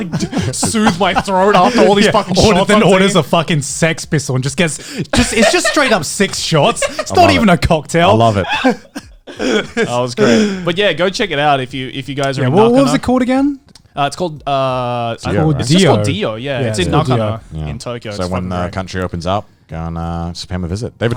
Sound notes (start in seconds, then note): 8.2 laughing